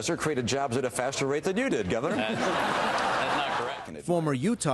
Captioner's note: laughter